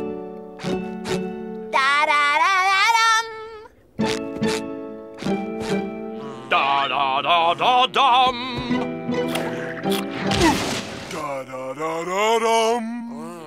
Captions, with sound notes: Da-da-da-da-dum! Da-da-da-da-dum! [crashing] Da-da-da-da-dum!